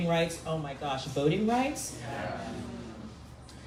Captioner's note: crowd